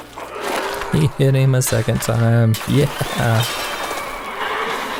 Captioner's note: haha